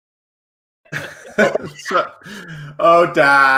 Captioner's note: all laugh